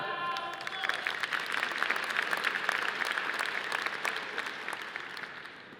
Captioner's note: audience applauding